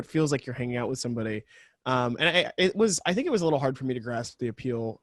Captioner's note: stammers